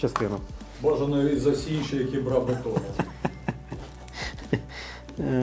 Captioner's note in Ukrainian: сміх